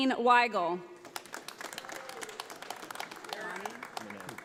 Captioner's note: audience applauding